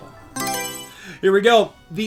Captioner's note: Mario Selection Sound